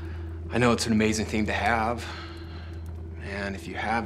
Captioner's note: tense music; sighs